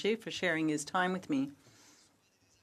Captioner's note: speaking French